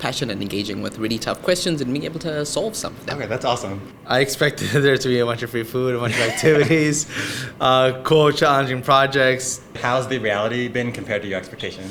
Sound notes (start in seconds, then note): 6.0 laughs